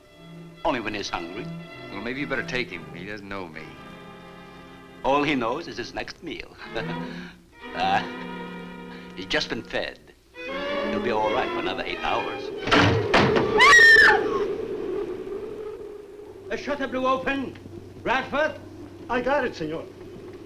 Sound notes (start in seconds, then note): 6.9 chuckles; 12.6 window shutter thuds; 13.4 Ann screams; 14.5 wind howls